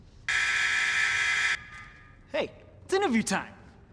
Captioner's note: buzzing